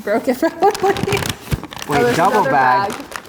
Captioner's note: laughs